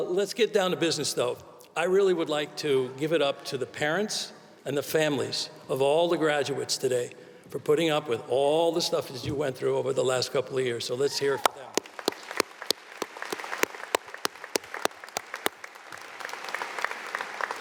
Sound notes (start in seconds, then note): 11.4 audience applauding